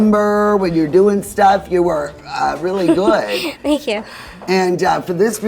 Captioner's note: laughs